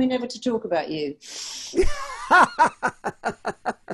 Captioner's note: laughs